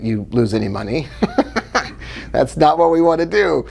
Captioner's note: laughing